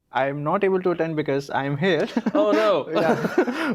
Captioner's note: both laughing; laughs